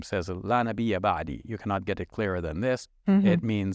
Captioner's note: speaking in Arabic